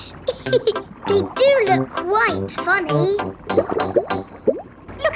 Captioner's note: laughs